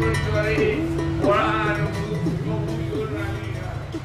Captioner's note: vehicle honking